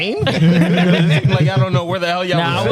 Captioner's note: laughing